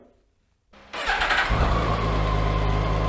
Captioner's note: engine starts